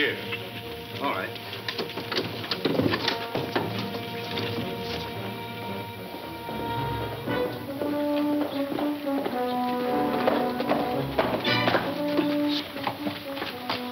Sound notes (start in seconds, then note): 0.1 clanking; 0.2 rustling; 6.6 intense instrumental music; 8.4 hooves heavily clunking